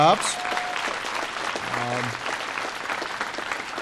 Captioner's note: applause